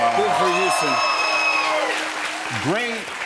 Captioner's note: cheers and applause